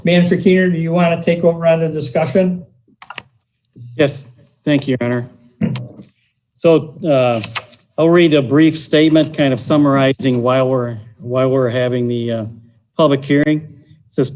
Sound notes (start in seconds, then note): 3.0 computer buttons clicking